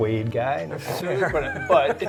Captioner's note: laughs